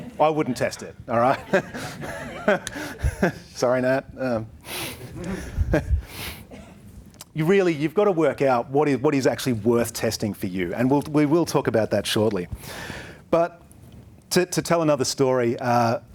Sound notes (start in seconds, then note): 1.2 laughs; 5.0 chuckles